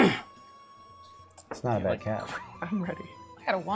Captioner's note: laughs